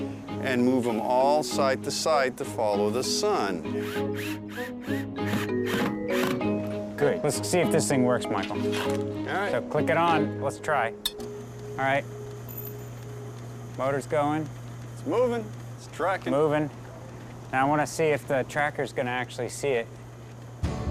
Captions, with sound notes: AND MOVE THEM ALL SIDE-TO-SIDE TO FOLLOW THE SUN. [ DRILL WHIRRING ] LET'S SEE IF THIS THING WORKS, MICHAEL. CLICK IT ON. LET'S TRY. [ MOTOR HUMMING ] MOTOR'S GOING. IT'S MOVING. IT'S TRACKING. I WANT TO SEE IF THE TRACKER'S GONNA ACTUALLY SEE IT.